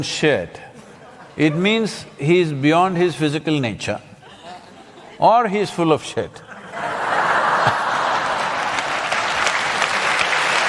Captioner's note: laughter/Applause